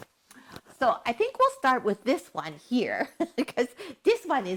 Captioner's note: chuckles